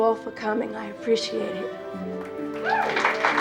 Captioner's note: cheering and applauding